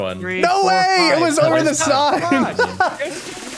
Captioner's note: laughs; upbeat music